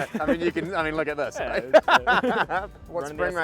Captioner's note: laughs